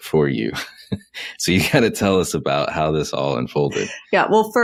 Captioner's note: laughs